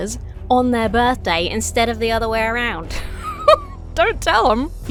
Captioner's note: laughs conspiratorially